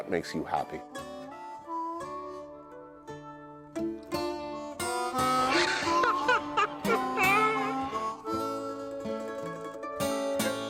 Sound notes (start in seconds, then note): 8.0 laughter